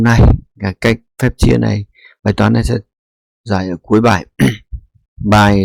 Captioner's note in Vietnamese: hắng giọng